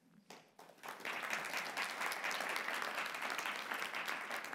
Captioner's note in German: Klatschen